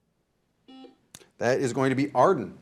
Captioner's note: buzzer buzzing